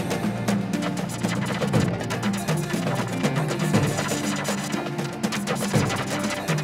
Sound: electricity buzzing

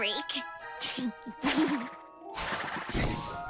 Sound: chuckling

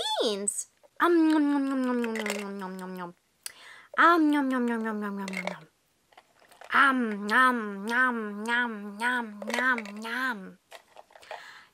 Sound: eating sounds

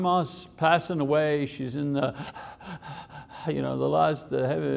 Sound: breaths heavily

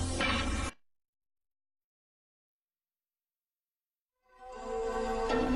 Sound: nostalgic music plays; silence

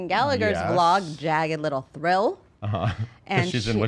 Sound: laughs

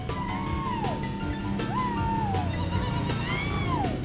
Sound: hooting

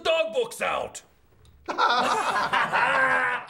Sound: all laughing

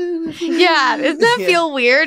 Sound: humming

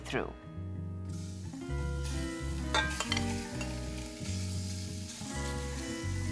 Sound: sizzling

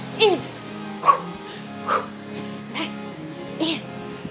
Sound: breathing heavily

